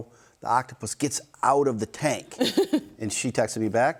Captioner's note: hosts laughing